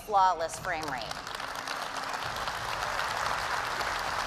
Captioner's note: applause